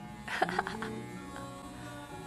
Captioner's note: evil sister laugh